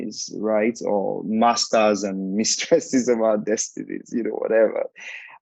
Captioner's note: chuckling